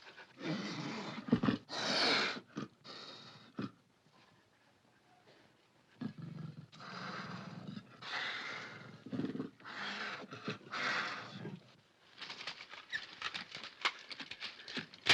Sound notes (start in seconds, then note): 0.0 panther growls & hisses; 6.6 panther growls & hisses